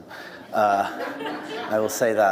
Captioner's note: audience laughs